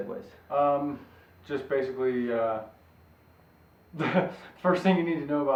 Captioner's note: laughs